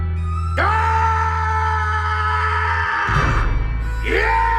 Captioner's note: shouting